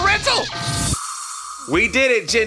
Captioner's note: alarm sound